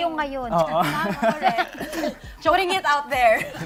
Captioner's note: laughter